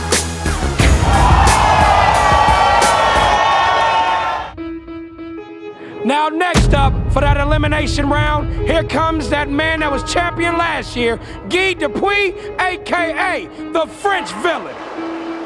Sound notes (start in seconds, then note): 0.7 spectators applauding